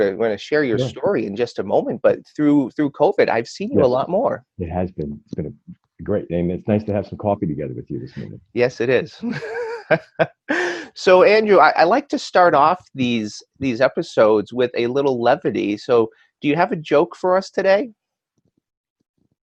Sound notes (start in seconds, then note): 9.2 laughs